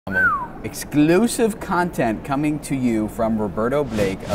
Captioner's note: whistles